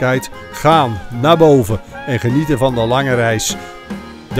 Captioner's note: voiceover